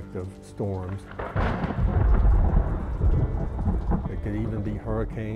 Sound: thunder

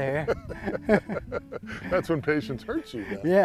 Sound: laughter

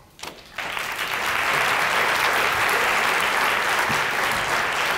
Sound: applause

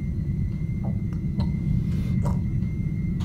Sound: gurgling

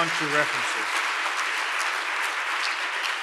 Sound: applause

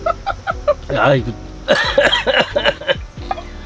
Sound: coughs; laughing

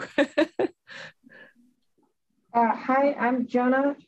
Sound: laughs

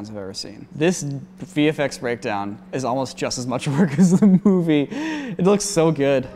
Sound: laughing

